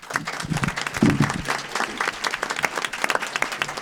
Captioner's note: audience applause